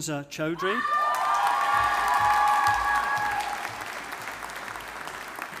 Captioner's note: audience applauding